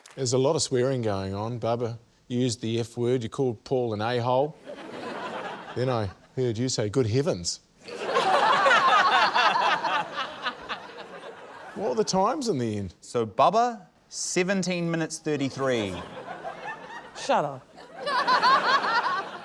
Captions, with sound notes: There was a lot of swearing going on. Bubbah, you used the F-word, you called Paul an A-hole. (LAUGHTER) Then I heard you say, 'Good heavens.' (LAUGHTER) What were the times in the end? - So, Bubbah, 17 minutes 33. (LAUGHTER) - Shut up. - (LAUGHTER)